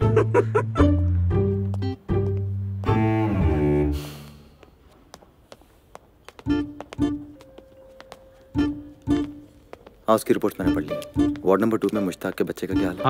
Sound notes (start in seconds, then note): 0.1 Laughs; 3.9 Footsteps